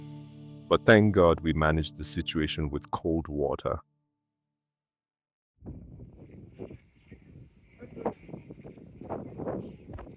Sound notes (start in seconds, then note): 5.6 wind noise